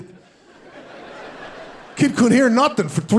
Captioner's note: audience laughing